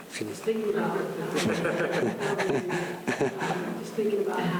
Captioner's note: laughter